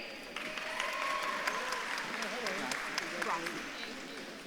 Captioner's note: audience claps and cheers